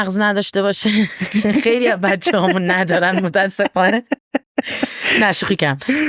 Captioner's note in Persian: خنده